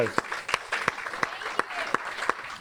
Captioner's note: audience applauds and cheers